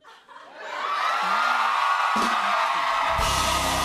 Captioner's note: cheers and applause